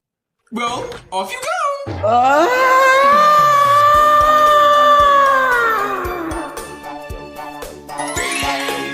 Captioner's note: Fuu2 screams